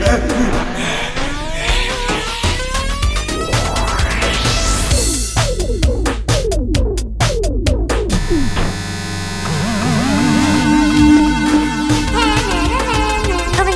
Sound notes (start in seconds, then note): 1.0 music rewinds; 5.1 upbeat music; 8.1 TV buzzes